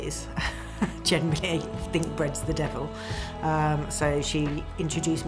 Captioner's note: chuckles